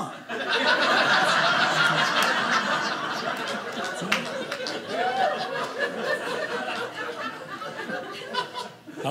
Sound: audience laughing

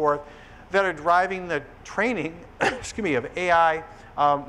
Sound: coughs

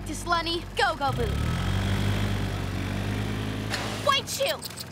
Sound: engine revs

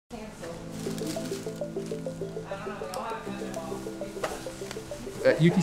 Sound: nurses chattering indistinctly

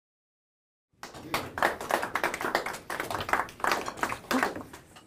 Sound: applause

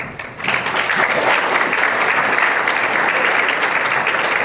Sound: applause

